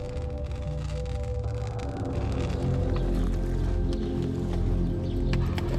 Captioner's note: sparks crackle from exposed wiring; spaceship hovering